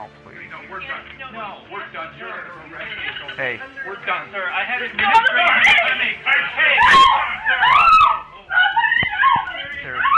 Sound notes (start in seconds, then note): 6.8 nurse screaming